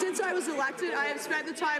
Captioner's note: some Applause